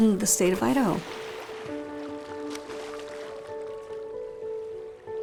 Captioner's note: water splashes